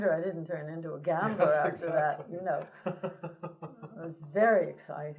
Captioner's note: laughter